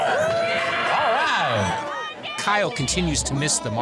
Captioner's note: people cheer